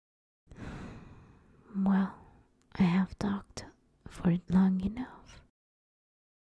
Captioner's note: sigh